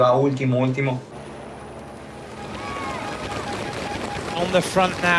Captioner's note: helicopter buzzing